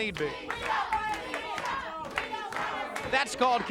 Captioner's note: crowd chanting